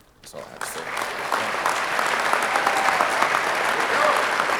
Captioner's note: audience applauding